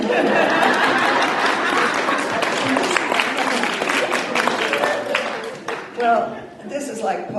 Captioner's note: applause